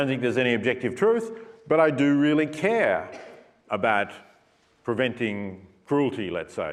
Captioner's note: cough